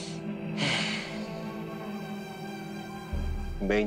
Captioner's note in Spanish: Park exhala